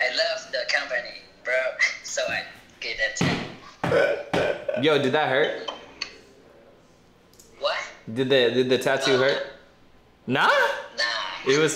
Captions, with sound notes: (laughing) - Yo, did that hurt? - Did the tattoo hurt? - Nah?